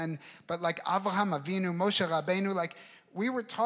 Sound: speaking in foreign language

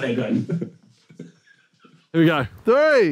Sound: indistinct chattering; laughing

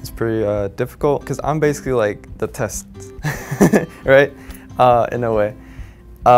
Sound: chuckles

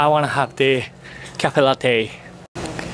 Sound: none

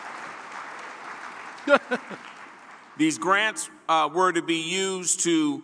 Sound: applause

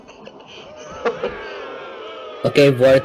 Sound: laughs; audience Boos

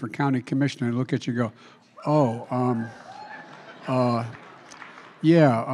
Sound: laughter

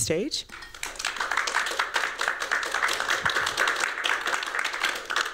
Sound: applause

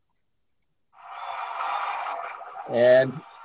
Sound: crowd applauds

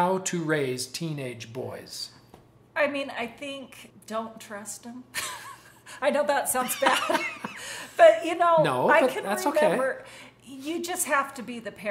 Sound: both laughs

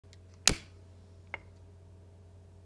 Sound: lighter Clicks

